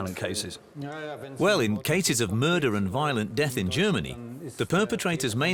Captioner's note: in German